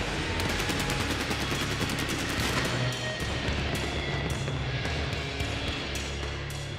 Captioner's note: fireworks popping continues; upbeat rock music continues